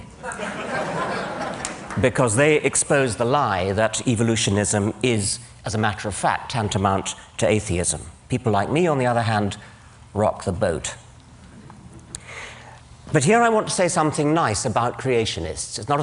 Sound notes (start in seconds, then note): 0.1 laughter